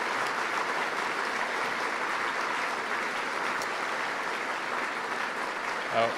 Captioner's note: applause